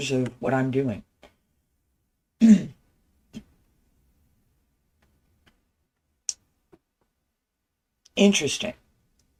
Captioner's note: clears throat